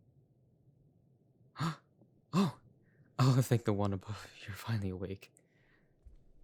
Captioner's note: gasp